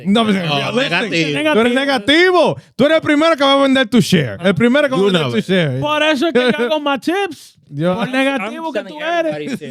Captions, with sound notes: (Speaking Foreign Language) To share. (Speaking Foreign Language) For eso quiego, my tips. (Speaking Foreign Language)